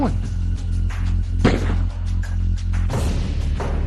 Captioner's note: gun firing